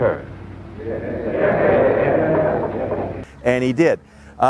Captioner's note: audience murmurs